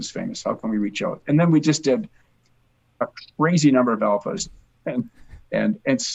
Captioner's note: chuckles